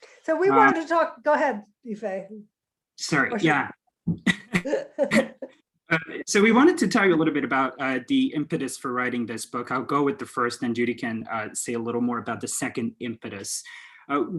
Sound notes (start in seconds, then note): 4.2 soft Giggles